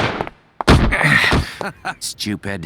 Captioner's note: the sound of being shot in the leg